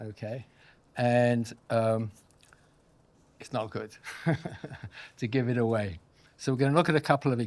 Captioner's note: chuckles